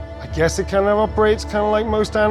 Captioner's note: none